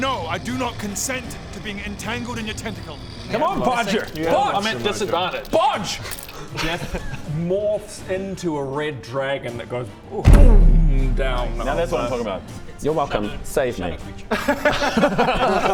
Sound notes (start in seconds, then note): 10.2 booooom; 14.5 laughs